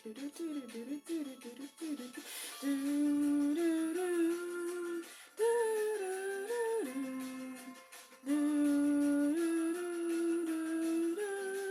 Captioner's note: humming along with theme music